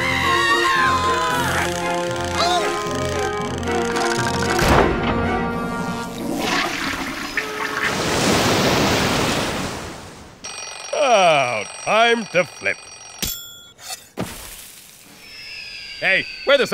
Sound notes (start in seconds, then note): 5.8 water rushes; 6.1 sound of toilet flushing; 10.4 alarm rings